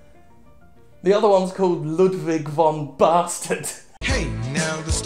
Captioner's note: chuckling